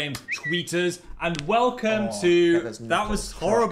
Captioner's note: bird chirps; Dan's knuckles crack